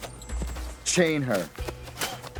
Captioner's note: spits